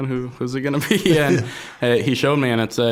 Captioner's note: both chuckling